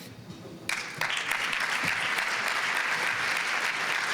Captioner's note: applause